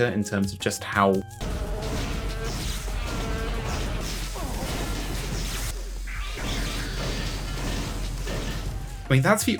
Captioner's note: robot Mosquito Noises and obnoxious gun sounds